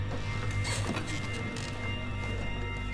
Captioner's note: chair creaks